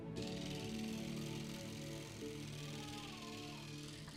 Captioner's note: toothbrush whirring